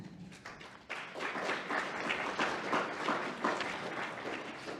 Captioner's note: audience applauding